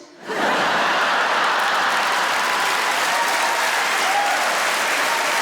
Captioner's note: audience laughs and applauds